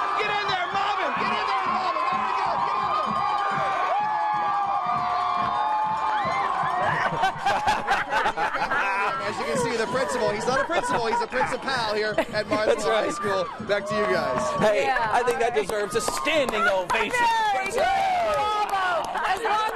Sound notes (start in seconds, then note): 2.9 cheering; 7.9 cheering; 10.1 laughter